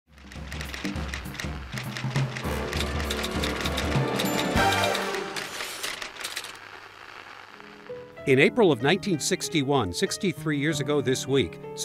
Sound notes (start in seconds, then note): 0.1 typewriter clacking